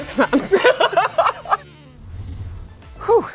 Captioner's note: laughter